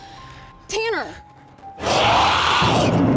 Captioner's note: shrieks